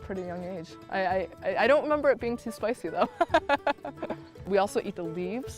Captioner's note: laughs